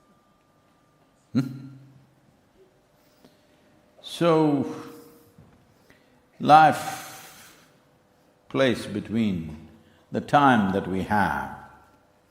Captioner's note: few laugh